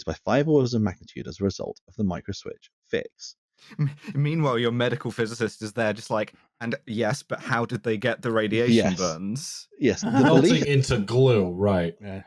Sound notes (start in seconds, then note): 4.1 laughing; 10.0 laughs